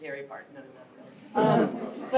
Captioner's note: laughter